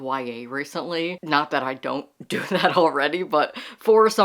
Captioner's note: laughing